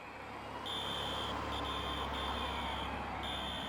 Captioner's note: whistle blowing